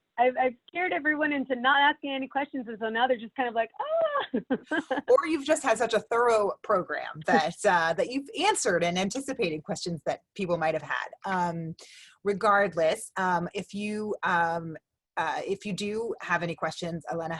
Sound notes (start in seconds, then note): 3.8 chuckles